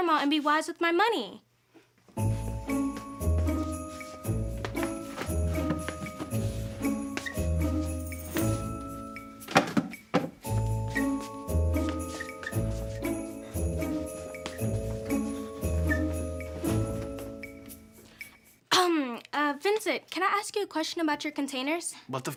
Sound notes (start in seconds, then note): 2.2 upbeat music; 3.4 rustling